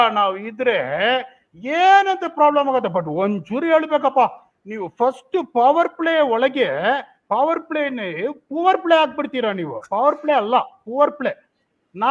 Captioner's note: speaks in Kannada